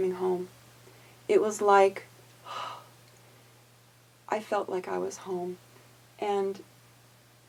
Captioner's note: exhales